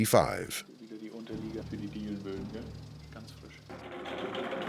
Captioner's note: man speaking German